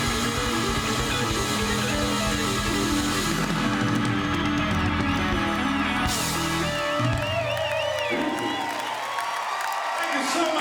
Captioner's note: applause, cheering